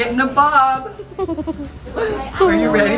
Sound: giggles

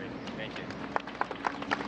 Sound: applause

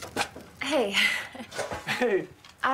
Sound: chuckles

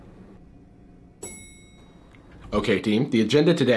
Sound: bell dings

